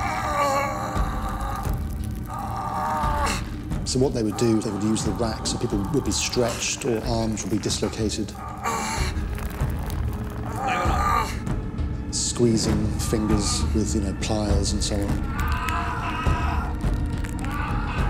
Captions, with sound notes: (groans) So they would use the rack. People were stretched or arms would be dislocated. (rope creaks) (groans) Squeezing fingers with pliers and so on. (cries)